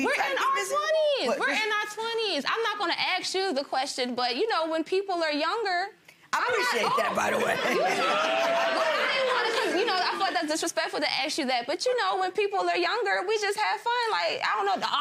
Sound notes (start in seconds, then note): 7.0 gallery laughs and oohs